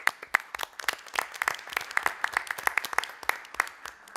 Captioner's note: applause